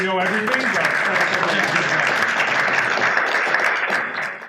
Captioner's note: applause